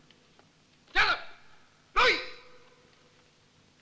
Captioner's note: Malay spoken audio